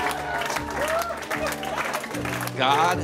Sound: people cheering and applauding

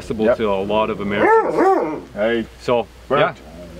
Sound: dogs groaning

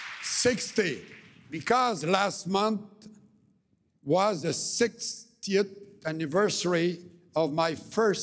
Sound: cheering and Applause

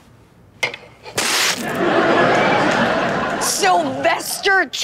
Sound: audience laughs

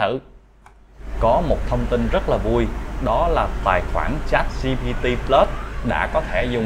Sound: motorcycle sound

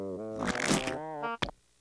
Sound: slurping

